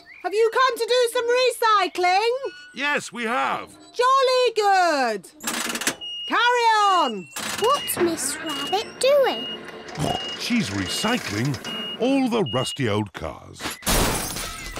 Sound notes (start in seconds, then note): 10.8 snorts